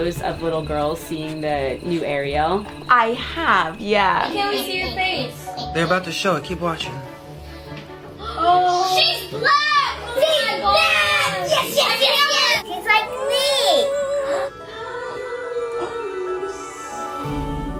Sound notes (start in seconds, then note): 8.4 kids gasping